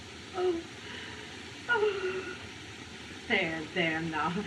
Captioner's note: moaning